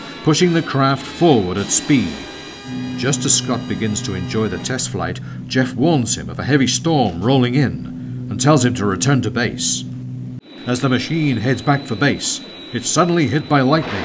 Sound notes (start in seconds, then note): 3.6 jet humming; 10.5 jet engine whirring